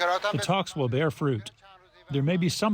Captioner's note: through translator